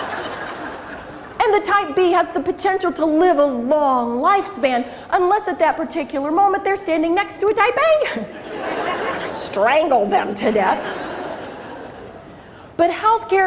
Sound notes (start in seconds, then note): 8.2 crowd laughs